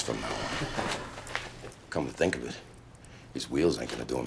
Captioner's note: chuckles